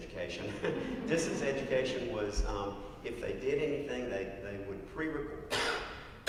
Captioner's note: laugh; cough